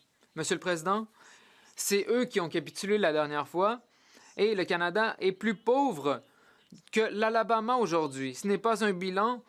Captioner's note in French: voix de l'interprète